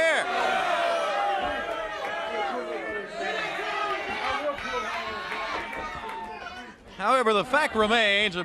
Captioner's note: crowd chatter